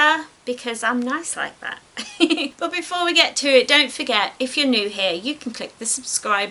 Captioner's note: giggles